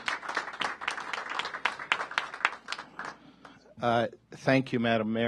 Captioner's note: applause